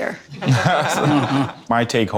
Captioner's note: laughing